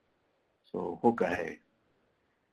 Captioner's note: foreign language